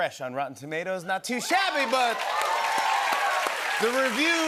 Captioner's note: cheers and applause